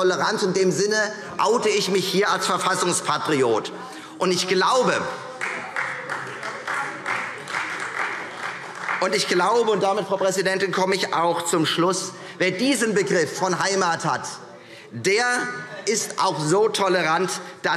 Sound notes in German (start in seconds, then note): 5.3 Beifall Freie Demokraten - Zurufe DIE LINKE